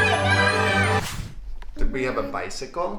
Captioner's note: wooshing